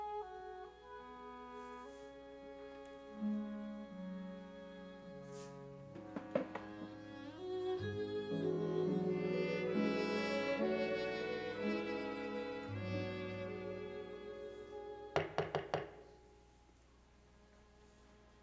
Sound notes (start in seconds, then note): 15.1 knocking on door